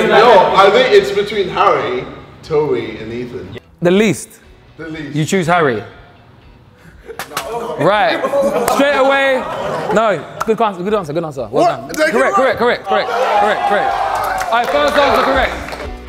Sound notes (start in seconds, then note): 7.0 group laughs nervously; 13.2 group applauds and celebrates